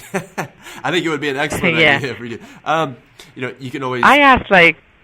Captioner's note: chuckles